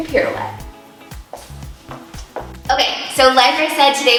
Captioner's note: shoes tapping